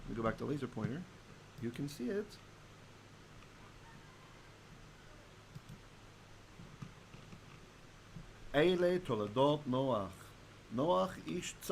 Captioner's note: Hebrew